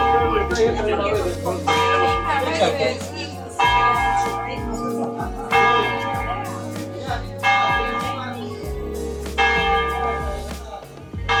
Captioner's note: bell and noise